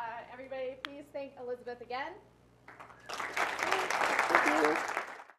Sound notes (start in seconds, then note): 2.7 applause